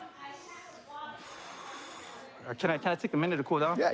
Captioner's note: exhales